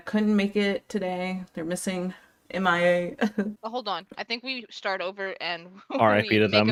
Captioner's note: dramatic sob